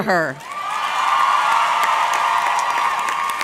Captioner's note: audience clapping; audience cheering